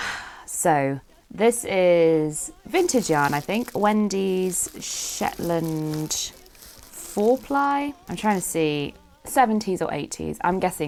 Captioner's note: sighs